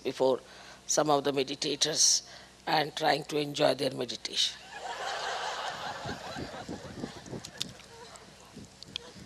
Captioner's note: Laughter; हँसी